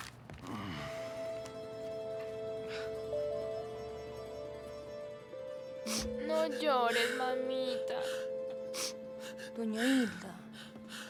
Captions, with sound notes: [frustrated sigh] [chuckle] Don't cry, mommy. Doña Hilda,